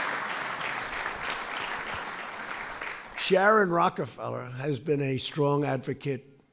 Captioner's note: applause